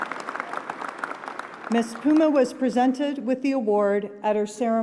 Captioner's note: applause